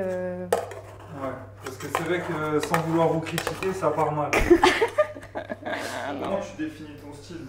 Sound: laughs

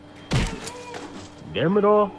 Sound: Darkversion Yelling

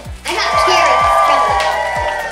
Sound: cheering

